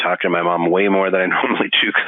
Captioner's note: laughing